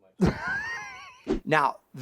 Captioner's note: laughs